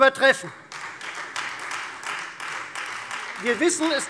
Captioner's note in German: Beifall Freie Demokraten